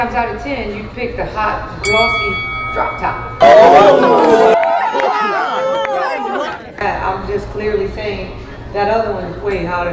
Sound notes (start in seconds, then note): 1.8 Boxing bell sound; 3.4 crowd jeering